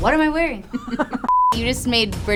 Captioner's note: screen beeps